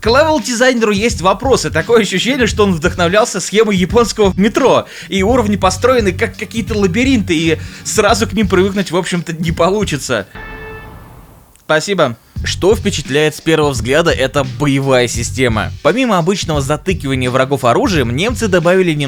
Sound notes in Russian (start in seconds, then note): 10.5 машина за окном